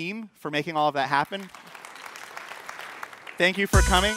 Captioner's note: applause